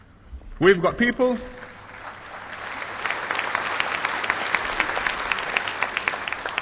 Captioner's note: applause